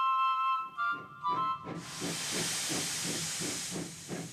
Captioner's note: whistle toots; train engine chugging